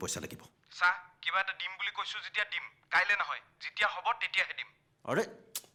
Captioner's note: over Phone